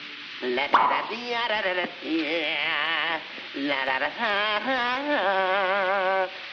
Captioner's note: cork squeaks; water pattering; Bugs Bunny vocalizing